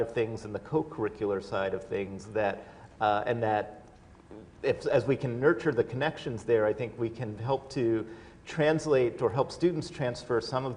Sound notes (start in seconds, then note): none